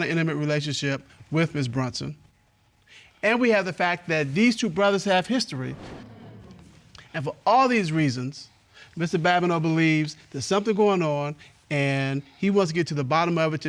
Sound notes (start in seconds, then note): none